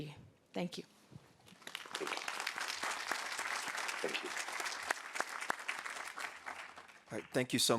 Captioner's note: audience applauding